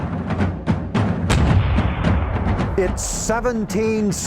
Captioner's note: steady drumming; gun firing